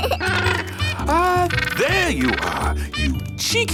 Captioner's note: giggles; honking